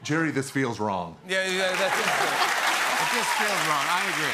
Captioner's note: cheers and applause